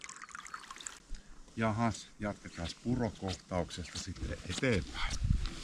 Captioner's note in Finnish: juoksevan veden solinaa